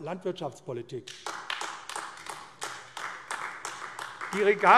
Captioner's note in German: Beifall AfD